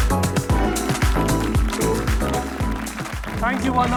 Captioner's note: audience applauding